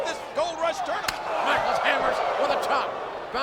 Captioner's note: audience groan